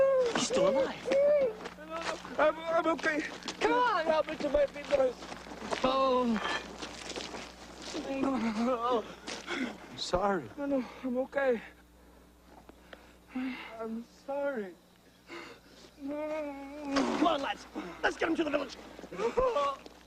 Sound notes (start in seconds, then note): 16.0 Phineas groans, cries